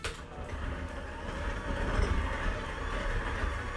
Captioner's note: mixer whirring